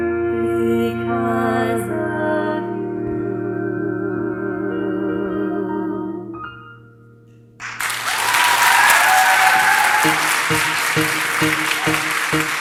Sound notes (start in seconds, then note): 7.6 audience cheers and applause; 10.0 piano music plays